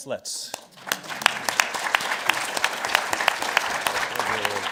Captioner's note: crowd clapping